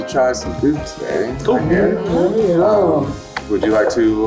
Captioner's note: group affirming